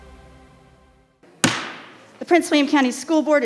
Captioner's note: hammer thumps